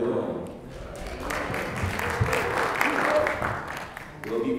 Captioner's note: applause